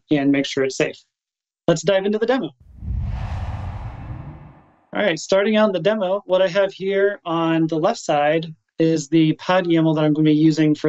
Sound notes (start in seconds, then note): 2.6 air whooshing